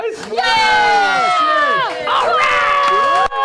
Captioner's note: cheering